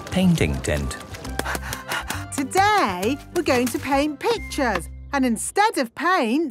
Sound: panting

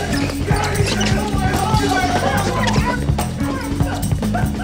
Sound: shouting continues

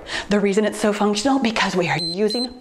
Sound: timer beeps

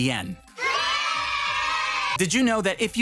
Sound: children cheering

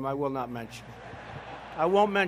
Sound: laughter

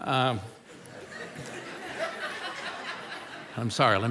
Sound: congregation laughing

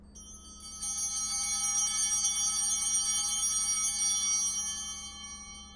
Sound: bell ringing

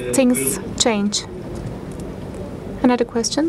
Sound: speaking foreign language

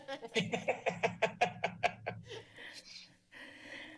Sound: laughter

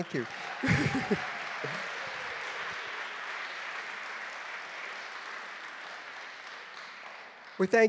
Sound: applause

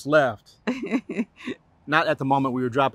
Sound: laughter

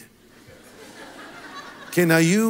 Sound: congregation laughs

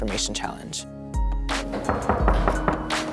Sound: knocking

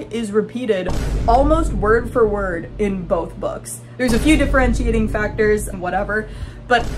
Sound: boom

